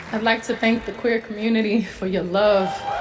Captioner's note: soundbite of archived recording